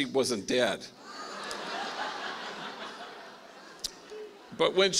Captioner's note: laughing